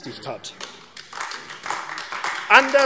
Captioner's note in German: Beifall AfD